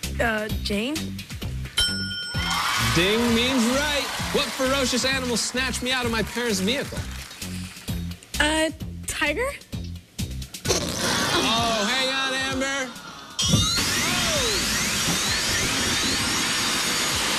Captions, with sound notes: - UH, JANE? ding! - "DING" MEANS RIGHT. WHAT FEROCIOUS ANIMAL SNATCHED ME OUT OF MY PARENT'S VEHICLE? - A TIGER? [farting noise] - OH, HANG ON, AMBER. OH!